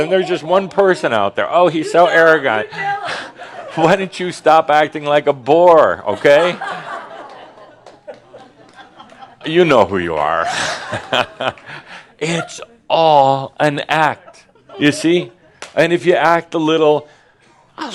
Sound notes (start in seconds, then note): 12.2 Adamus chuckles